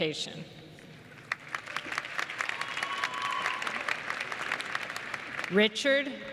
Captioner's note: applause